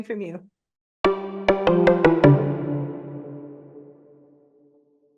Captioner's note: playful warble